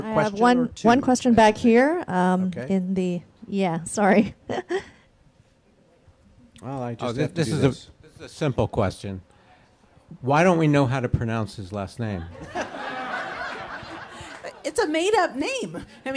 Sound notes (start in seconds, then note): 5.3 chuckles; 12.2 audience laughs